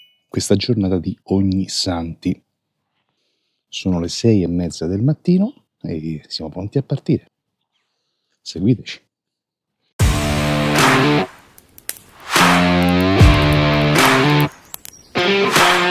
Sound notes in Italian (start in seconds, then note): 11.3 Applauso